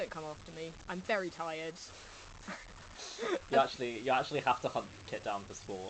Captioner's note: laughs